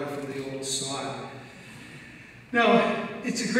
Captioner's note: speaks in foreign language